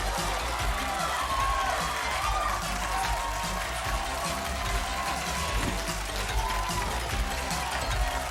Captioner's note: applause